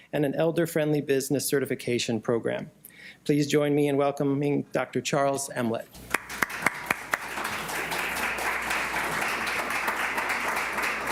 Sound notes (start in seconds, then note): 6.0 applause